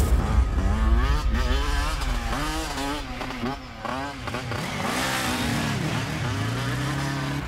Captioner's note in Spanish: Ruidos de la motocicleta